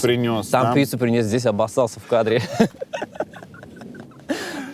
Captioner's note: laughs